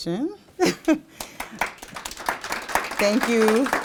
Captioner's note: applause